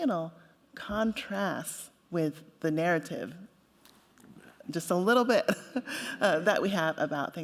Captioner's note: chuckles